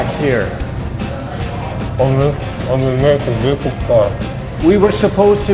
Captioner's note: mumbling